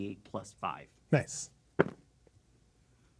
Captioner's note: dice rolling